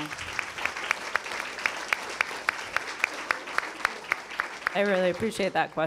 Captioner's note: attendees applauding